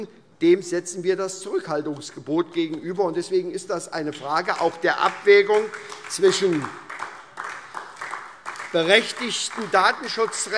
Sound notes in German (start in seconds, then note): 4.1 Beifall SPD